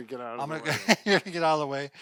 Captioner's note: laughter